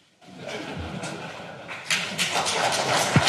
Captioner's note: applause